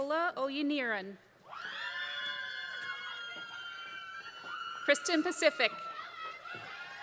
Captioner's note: applause; applause